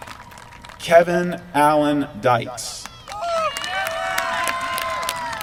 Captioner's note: applause